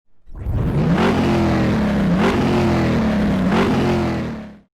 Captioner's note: engine revving